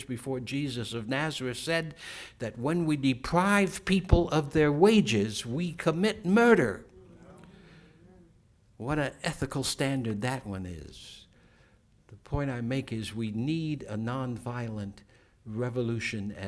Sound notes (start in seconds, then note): 6.8 crowd murmur